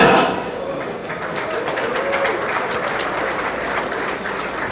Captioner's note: applause